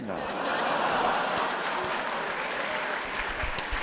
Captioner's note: laugh; applause